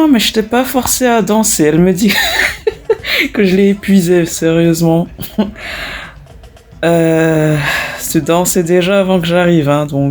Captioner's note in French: Rires